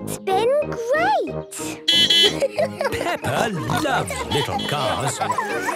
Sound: beeping and laughing

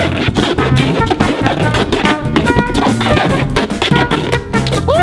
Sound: taping sounds

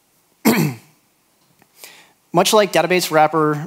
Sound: clears throat

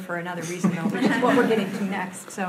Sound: audience laughing

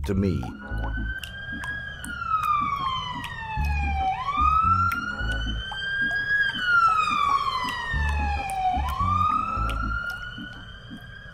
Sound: siren

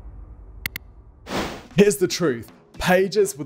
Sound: button clicks; screenwipe whooshes

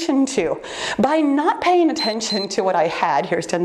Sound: timer beeps

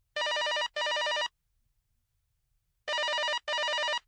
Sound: phone ringing

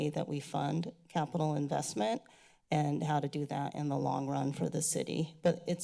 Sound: none

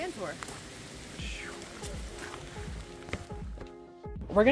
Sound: woosh sounds

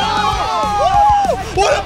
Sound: overlapping cheers

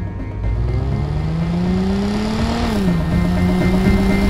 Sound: engine revs

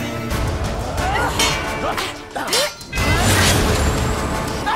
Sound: grunting, swords clanging

